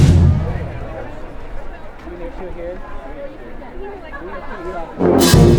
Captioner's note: chatter